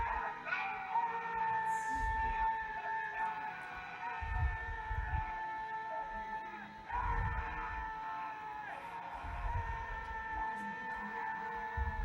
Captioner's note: screams in terror